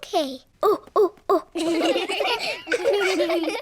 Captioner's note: children laughing; all laugh